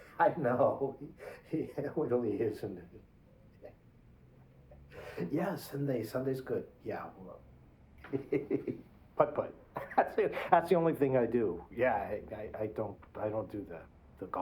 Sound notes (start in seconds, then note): 8.0 giggle